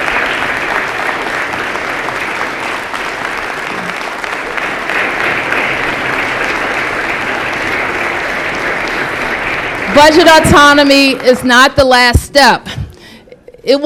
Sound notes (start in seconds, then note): 2.3 applause